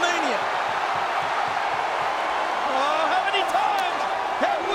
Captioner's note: crowd clamoring